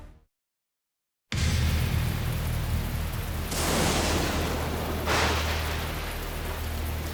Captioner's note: lightning crackles; rain pattering